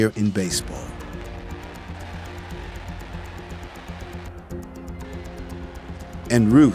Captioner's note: crowd cheers